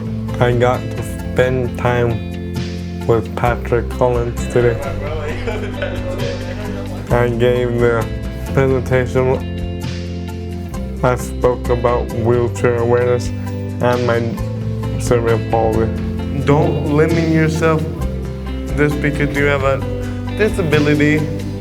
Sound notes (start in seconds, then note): 4.8 laughter